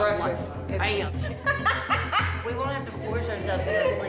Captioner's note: laughs